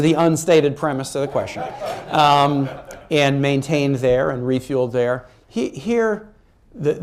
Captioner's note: laughter